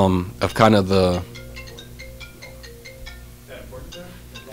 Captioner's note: phone ringing